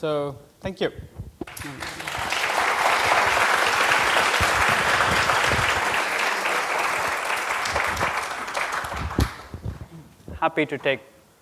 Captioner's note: applause